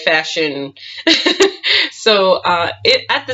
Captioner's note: laughs